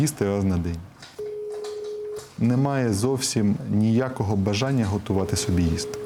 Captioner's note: telephone call